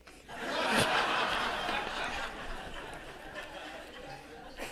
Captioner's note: audience laughing